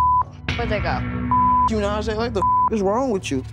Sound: beeping

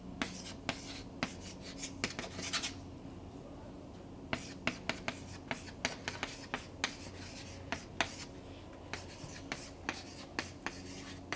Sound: chalkboard writing

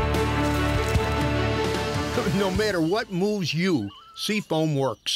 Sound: voiceover

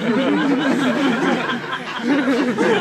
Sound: laughing

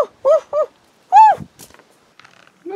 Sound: ohhh

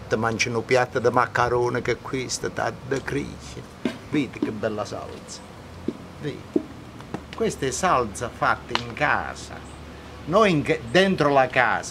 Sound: speaks Italian; speaking Italian

